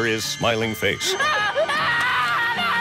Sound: screaming

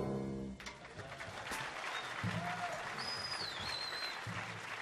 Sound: audience applauding

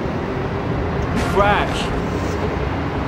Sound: crash

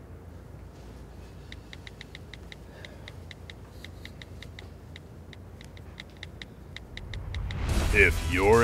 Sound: typing away on cell phone

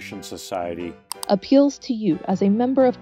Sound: click

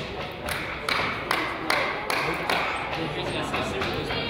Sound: person applauds

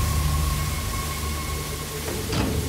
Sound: water pouring

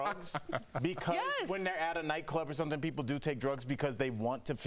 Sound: laughter

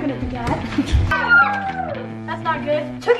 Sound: girls scream

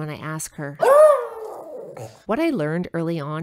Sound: roar

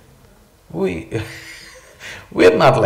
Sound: laughs

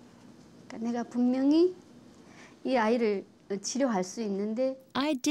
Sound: speaks foreign language

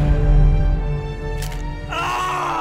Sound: bones break

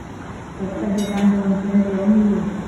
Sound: platform ding indicating train is approaching

